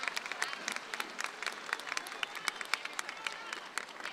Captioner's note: crowd chattering